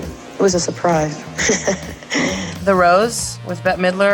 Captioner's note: laughs